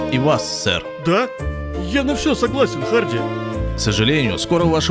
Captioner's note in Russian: с надеждой